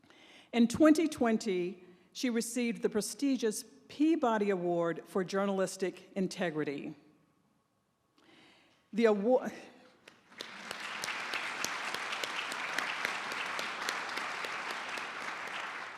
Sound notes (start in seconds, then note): 10.0 applause